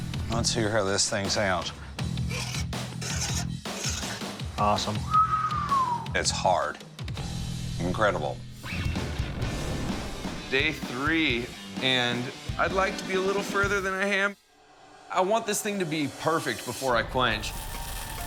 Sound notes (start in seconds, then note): 3.0 scraping on blade; 5.0 whistles; 8.4 rock music